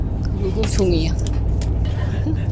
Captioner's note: laughs